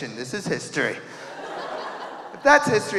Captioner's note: audience laughing